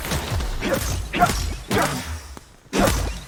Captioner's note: grunting